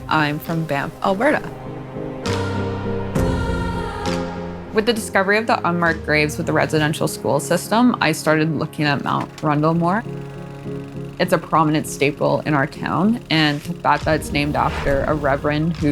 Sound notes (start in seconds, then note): 3.2 heartfelt music; 10.6 film reel clicks